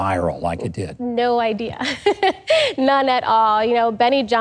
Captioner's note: giggles